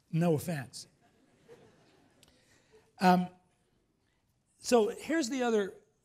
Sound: laughs

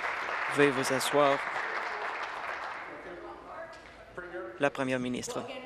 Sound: applause

